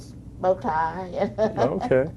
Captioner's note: laughs